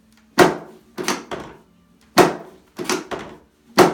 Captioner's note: several bangs